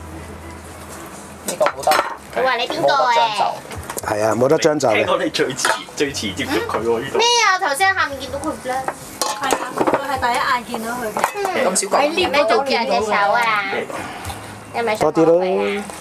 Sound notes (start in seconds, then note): 4.0 continue chatting